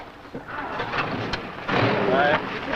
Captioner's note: engine running